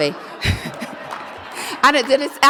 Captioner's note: audience laughs; laughs